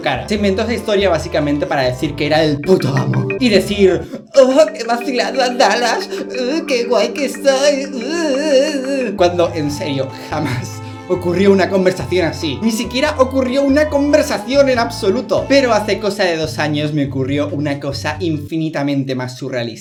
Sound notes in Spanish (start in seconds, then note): 8.0 voz afeminada